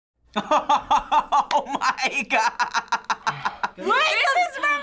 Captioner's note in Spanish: risas